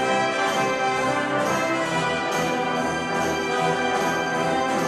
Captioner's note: applause